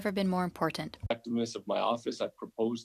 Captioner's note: speaking French